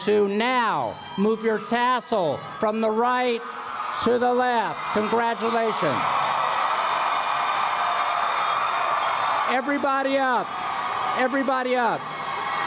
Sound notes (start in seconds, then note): 4.6 applause